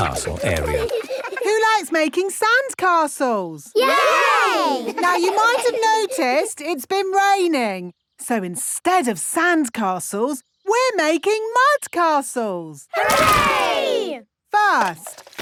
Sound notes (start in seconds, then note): 4.2 all giggle